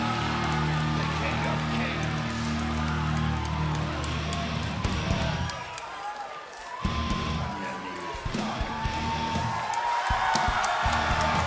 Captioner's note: cheers & applause